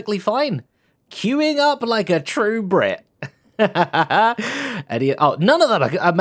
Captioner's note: laughs